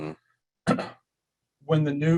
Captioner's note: clearing throat